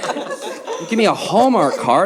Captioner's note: audience laughing